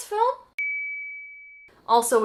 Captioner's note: ding